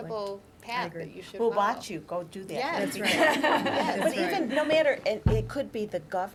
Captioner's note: laughter